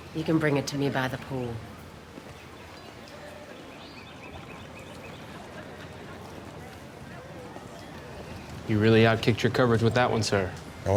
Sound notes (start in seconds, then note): 3.4 birds singing; 4.2 people chattering